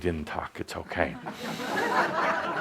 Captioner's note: laughter